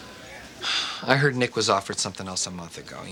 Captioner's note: none